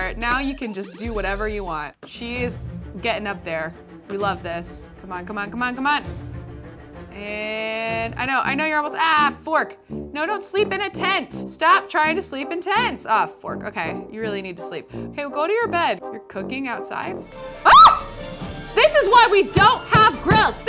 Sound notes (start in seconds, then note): 17.6 girl screams